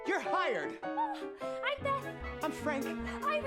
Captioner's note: exclaims